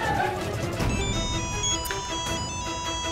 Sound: crowd clamouring; phone ringing

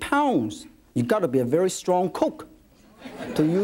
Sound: audience laughs

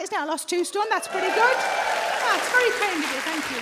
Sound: audience cheers

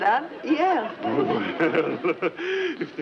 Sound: professor laughs

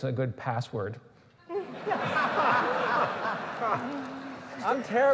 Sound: laughter

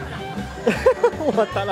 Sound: magic nature Laughter

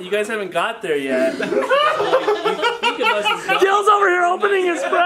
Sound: laughter

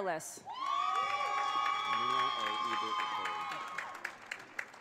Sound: audience cheers

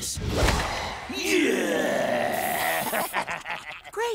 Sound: laughing

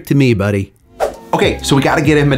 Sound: screen swooshes

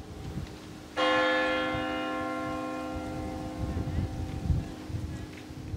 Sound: church bell ringing

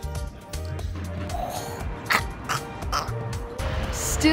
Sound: choking

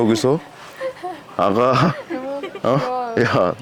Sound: laughing

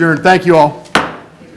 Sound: gavel

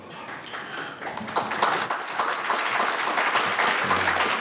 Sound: audience applauding

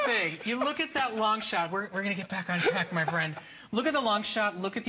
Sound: laughter

